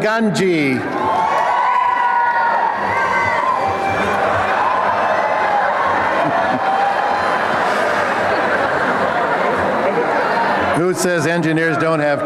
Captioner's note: applause and cheering